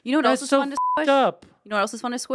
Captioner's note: beep